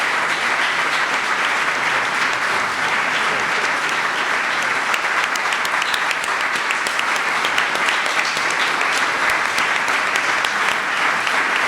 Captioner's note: applause